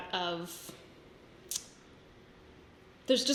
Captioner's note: sucks teeth